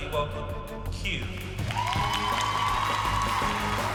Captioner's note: cheering